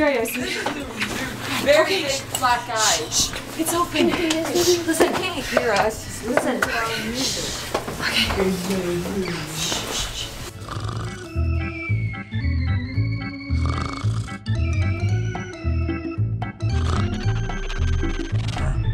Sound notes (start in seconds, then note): 10.5 snoring; 11.0 upbeat music